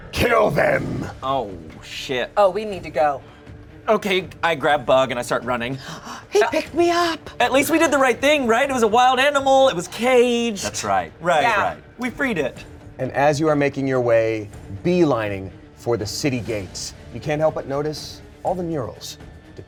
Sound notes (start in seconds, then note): 5.8 gasps